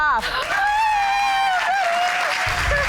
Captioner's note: all cheering